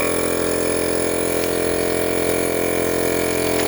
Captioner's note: growling